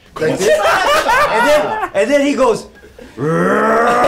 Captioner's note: growls